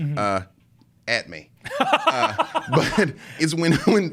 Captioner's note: laughs